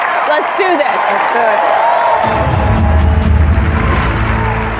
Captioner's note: audience cheer and applaud